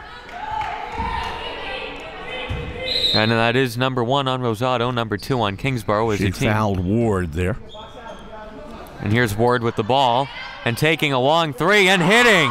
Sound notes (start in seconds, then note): 1.3 crowd murmuring; 2.8 referee blows whistle